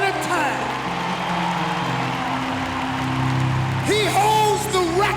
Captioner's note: audience applauding and cheering